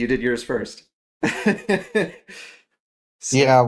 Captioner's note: laugh